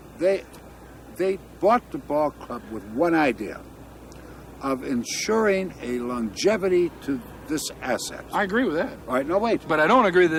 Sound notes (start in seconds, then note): none